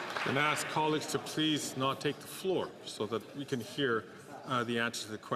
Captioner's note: some Applause